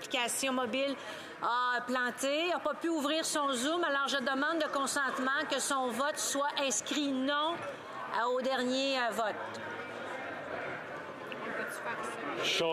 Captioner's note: speaking French